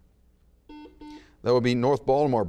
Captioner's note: buzzer beeps